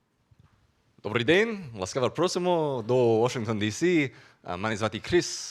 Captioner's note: speaking Ukrainian